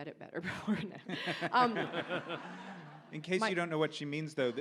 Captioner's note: audience laughs